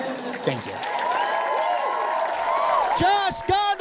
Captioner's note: audience cheers and applauds